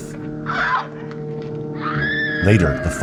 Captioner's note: screams